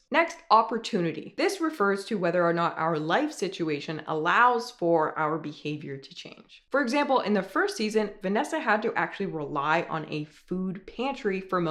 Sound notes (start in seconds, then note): none